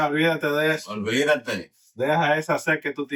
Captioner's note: speaking Foreign Language